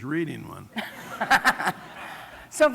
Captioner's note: laughter